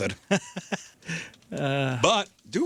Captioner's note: laughing